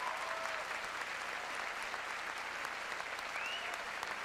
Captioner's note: cheers and applause